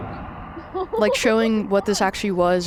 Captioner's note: chuckles; laughs